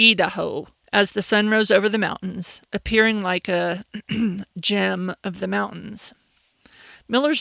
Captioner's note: ahem